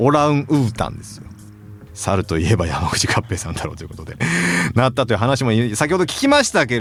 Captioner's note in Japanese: 息をのむ音